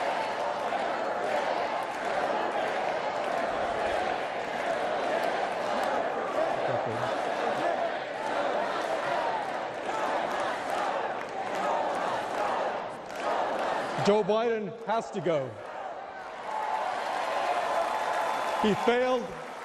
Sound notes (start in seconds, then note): 6.7 chanting "never forget"